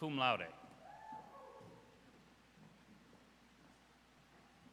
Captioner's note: audience cheers